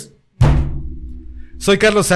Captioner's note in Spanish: golpe a la pobre mesa inocente